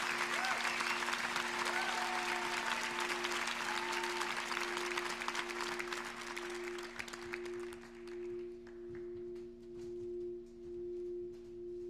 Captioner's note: cheers and applause